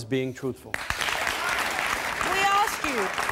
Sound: applauding

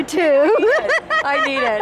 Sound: laughs

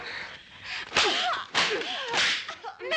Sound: Babs screaming

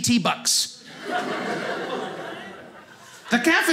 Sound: audience laughing

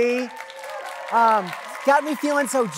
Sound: audience claps

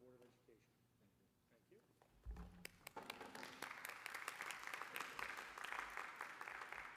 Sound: applause

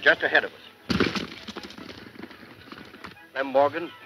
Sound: horse galloping

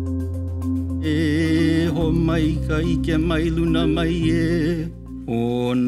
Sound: chanting

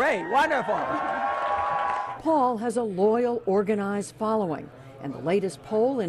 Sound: cheering and applause

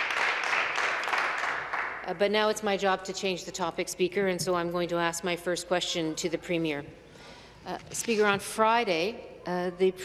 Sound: applause

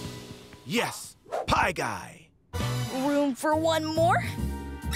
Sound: none

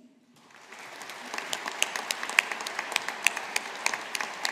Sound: audience applauding

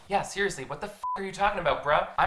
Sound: beeps

